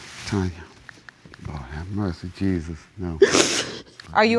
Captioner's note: sniffles